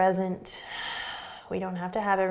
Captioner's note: exhaling